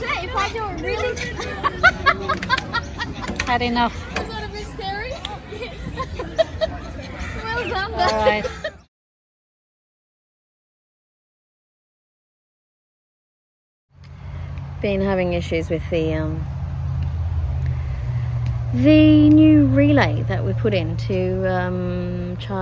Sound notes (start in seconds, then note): 2.4 laughs; 5.7 laughing and panting